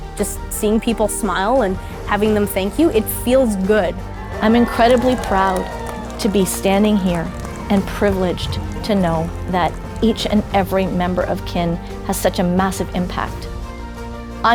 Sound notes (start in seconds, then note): 4.5 crowd cheering